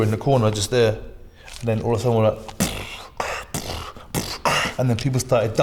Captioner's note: starts beatboxing